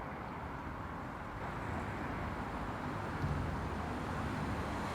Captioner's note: traffic humming